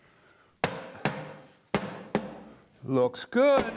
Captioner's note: hammer thuds